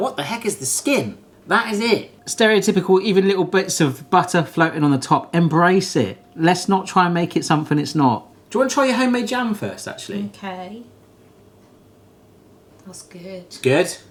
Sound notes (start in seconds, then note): none